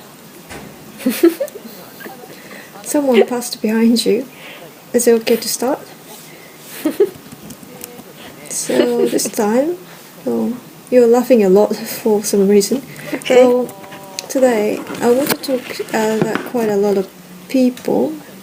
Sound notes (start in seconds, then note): 6.6 laghing